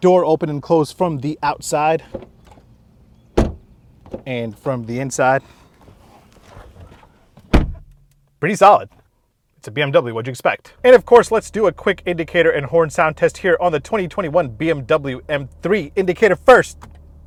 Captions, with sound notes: Door open and close from the outside, (door banging) and from the inside. (door banging) Pretty solid. It's a BMW, what'd you expect? And of course, let's do a quick indicator and horn sound test here on the 2021 BMW M3. Indicator, first.